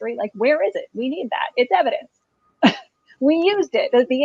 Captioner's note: chuckles